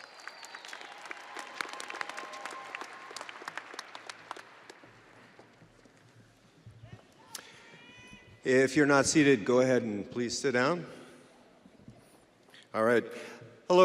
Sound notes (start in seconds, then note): 3.3 audience cheering and applauding; 7.3 audience member cheering